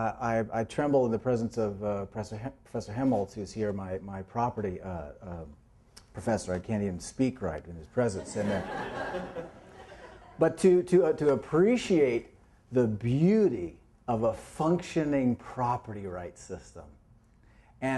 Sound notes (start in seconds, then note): 8.2 laughter